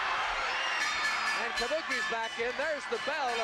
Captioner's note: bell ringing